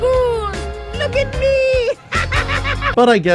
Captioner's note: laughing maniacally